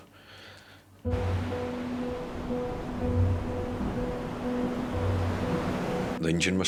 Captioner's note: gentle music; waves roaring